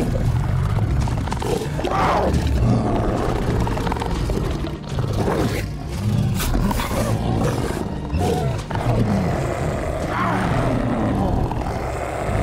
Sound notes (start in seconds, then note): 0.0 growling; 5.9 both snarling